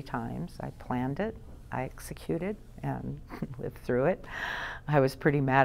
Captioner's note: laughs